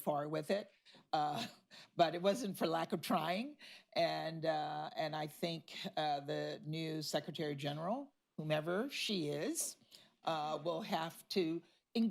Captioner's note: laughs